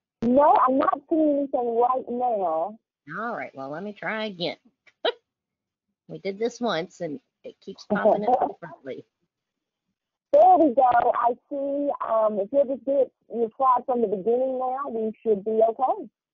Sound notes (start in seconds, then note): 4.9 chuckles